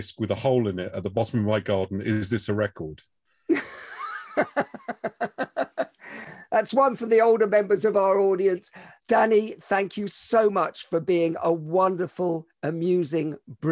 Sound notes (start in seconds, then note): 3.5 laughs